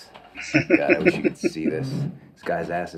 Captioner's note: laughing